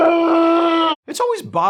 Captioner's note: over-the-top inconsolable sobs